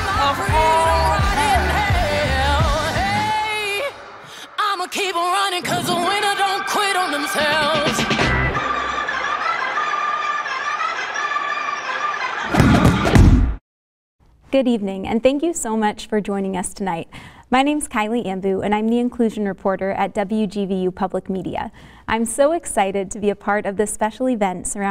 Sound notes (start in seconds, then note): 8.9 audience cheers; 8.9 upbeat music